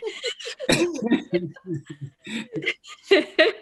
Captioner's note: laughing